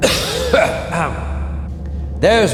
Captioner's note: cough